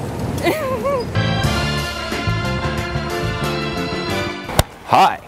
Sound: laughs

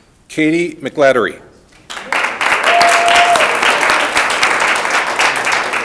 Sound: audience applauding

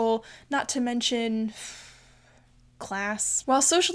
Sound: sighs

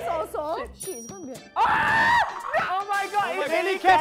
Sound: scream

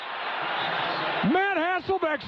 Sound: crowd cheering

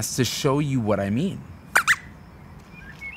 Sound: squeaks squeaks

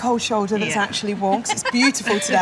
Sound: laughter

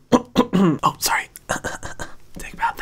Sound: clears throat

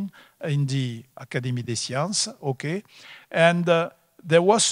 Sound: speaking foreign language

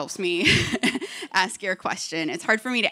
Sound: laughter

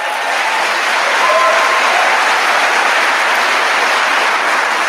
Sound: audience applauding

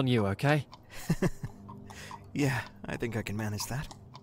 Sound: laughs

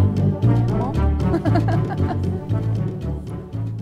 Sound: laughter

